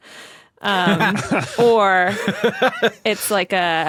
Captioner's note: laugh